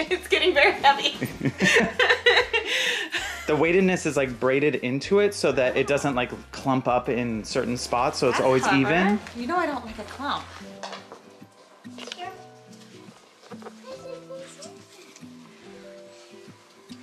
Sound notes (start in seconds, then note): 1.2 laughing